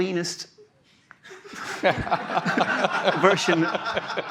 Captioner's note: laughter